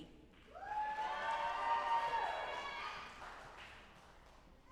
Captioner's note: audience applauding